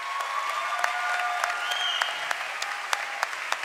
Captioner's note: cheering and applause